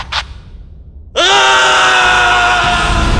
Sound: screaming

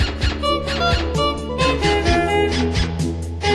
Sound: HONK-to-HONK-to-HOHOHONK

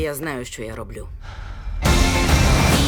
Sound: inhales deeply

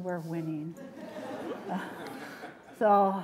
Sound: laughter

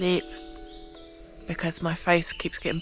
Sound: birdsong

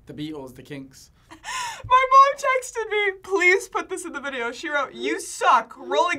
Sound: laughs

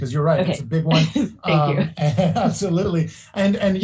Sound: laughs

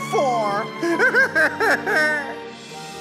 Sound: crying

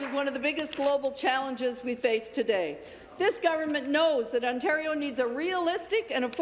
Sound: applause

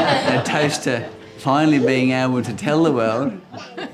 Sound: all laugh

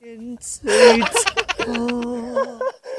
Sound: laughing until he's shaking all over

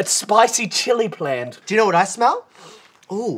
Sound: sniff

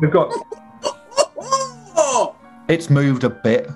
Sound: laughing

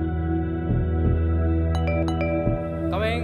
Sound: door bell rings

